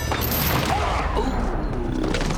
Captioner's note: grunts